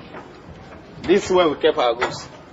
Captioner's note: foreign language